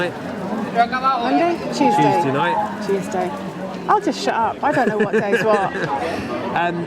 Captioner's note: laughter